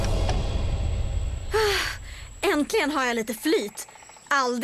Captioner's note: sighs